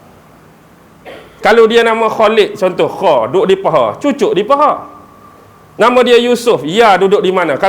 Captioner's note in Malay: berdeham